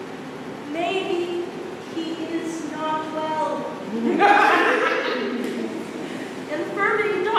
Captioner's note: scattered laughter